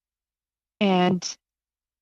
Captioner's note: speaking in french